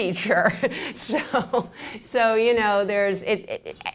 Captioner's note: laughs